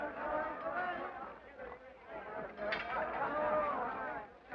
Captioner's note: men chatter